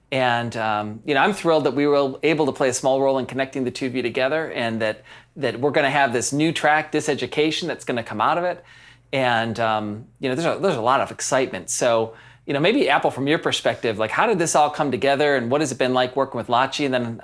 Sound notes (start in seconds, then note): none